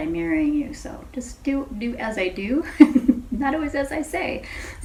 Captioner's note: chuckles